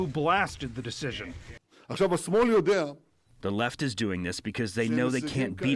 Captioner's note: through translator